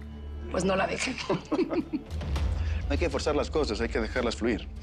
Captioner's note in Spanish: Risas